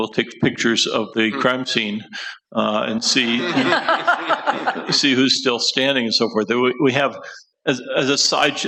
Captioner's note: laughter